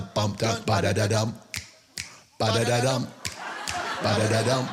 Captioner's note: fingers snapping